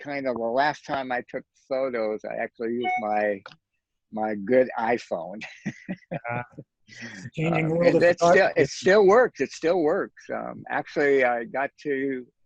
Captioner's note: laughs